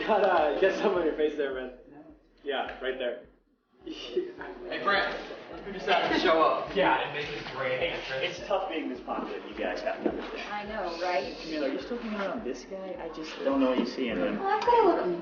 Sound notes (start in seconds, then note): 3.9 laughing